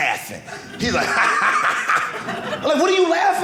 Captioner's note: laughing